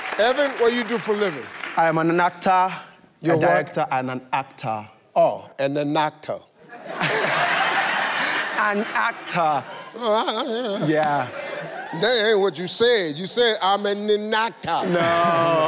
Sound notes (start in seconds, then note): 6.6 laughter; 8.8 says slowly